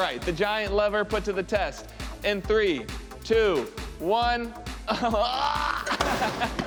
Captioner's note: grunts